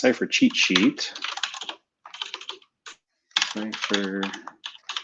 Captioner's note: typing